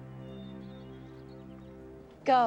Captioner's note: bird chirp